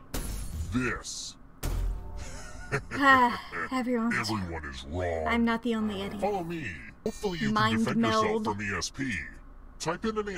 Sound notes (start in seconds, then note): 3.0 sighs